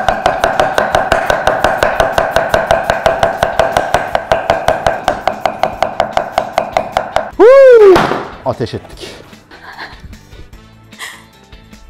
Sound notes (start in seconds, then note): 7.9 boom